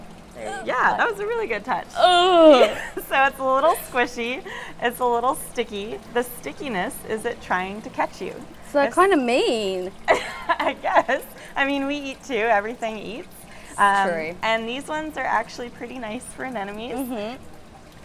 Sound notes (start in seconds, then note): 10.1 laughs